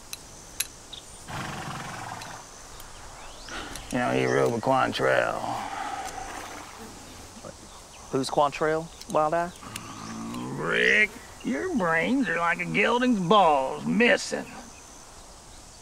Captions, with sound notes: (horse snorts) You know, he rode the Cowan trail. - Who's Cowan trail, Wild Eye? - Brick, your brains are like a gelding's balls, missing.